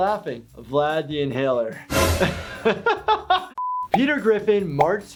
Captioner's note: laughing